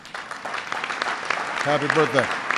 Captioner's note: applause